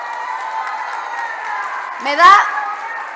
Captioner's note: applause